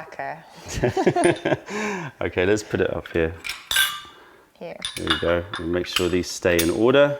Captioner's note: laughter